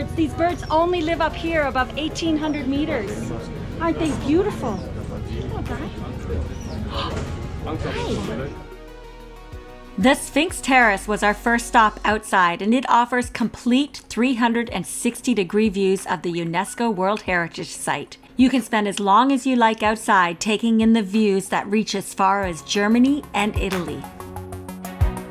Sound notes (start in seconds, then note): 5.9 bird chipping; 6.8 gasps; 25.0 gentle music